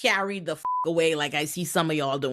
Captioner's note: beep